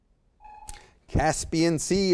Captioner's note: timer sounds